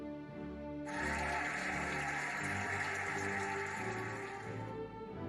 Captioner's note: cheering and applauding